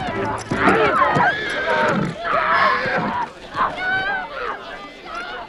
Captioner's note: women shouting